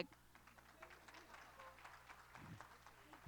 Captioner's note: applause